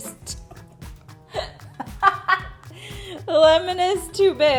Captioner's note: laughs